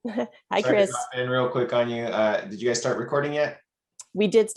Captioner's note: murmurs